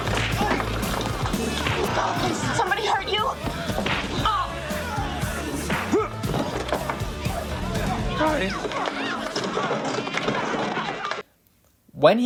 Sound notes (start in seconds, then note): 3.0 sounds of punching; 8.2 voice cracking